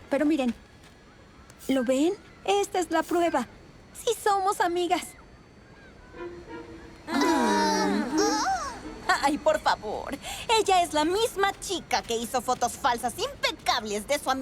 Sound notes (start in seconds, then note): 5.8 questioning murmurs